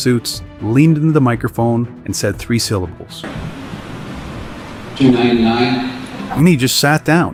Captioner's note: voiceover